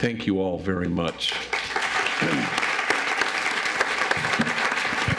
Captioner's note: audience applauds